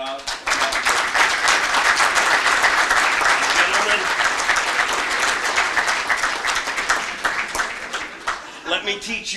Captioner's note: applause